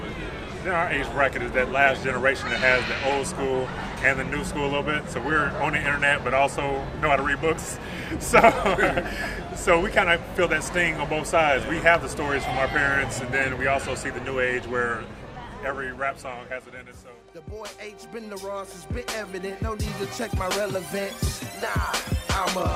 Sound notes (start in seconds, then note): 8.0 men laugh; 8.1 laughs